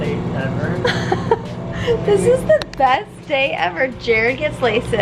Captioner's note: chuckles